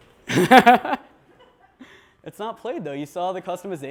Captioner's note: laughs